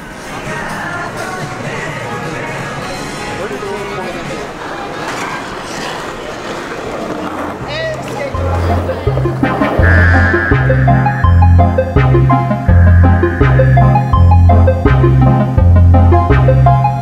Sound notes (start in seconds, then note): 0.4 people chattering; 0.4 upbeat music; 4.2 skateboard scraping; 8.4 upbeat inquisitive music